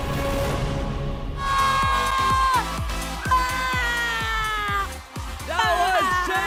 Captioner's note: suspenseful music continues; melai screaming; audience cheering